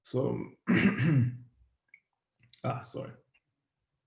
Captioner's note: clears throat